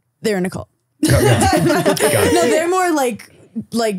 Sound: all laughing

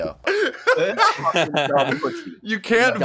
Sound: laughs

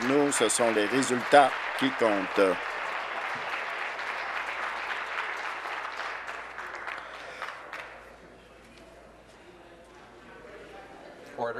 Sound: applause

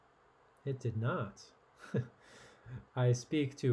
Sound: laughs

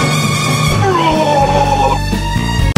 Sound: goofy pumpkin sounds

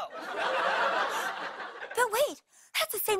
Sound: gasps

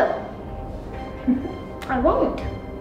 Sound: laughs

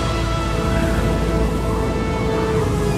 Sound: wind howling

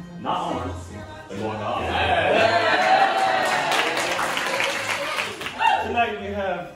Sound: applause

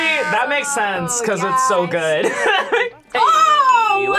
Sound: laughs

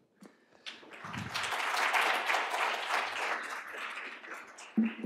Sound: applause

